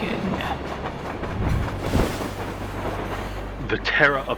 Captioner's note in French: Bruissement d'une cape